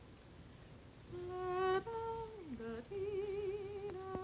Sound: humming tune

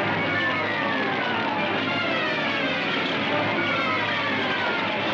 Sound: flames crackling

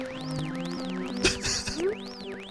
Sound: giggles

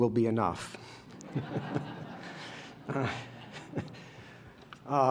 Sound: laughter

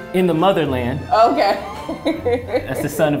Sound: laughs

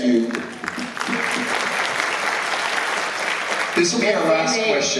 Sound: applause

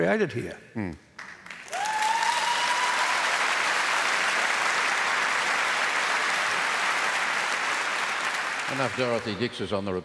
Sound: cheering and Applause

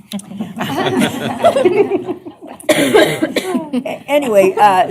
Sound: laughter

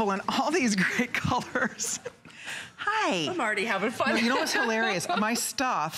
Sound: laughter

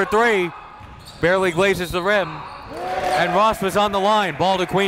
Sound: whistle blows

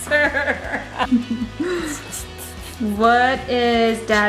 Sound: laughing

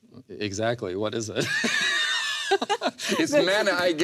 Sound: laughs

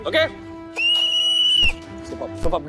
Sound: whistles

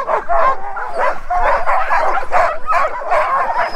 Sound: dogs barking

